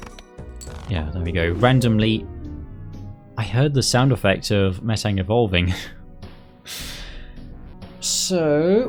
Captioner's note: chuckle